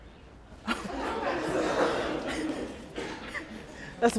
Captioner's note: laughing